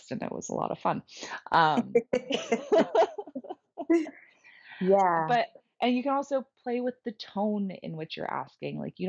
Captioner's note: laughing